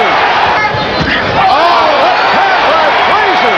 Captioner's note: crowd Cheering